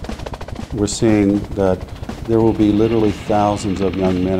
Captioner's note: background helicopter sound